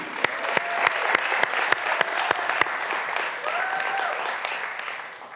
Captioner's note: graduands cheering and applauding